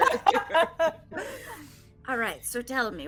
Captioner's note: all laughing